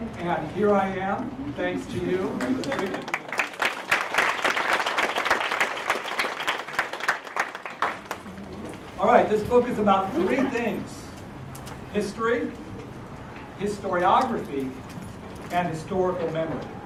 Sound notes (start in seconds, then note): 2.3 applause